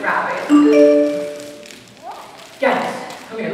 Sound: notification sound

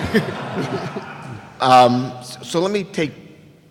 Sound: laughing

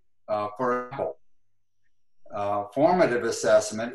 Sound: glitch

